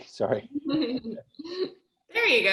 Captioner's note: chuckles